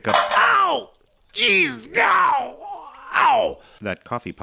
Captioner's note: surpressed expletives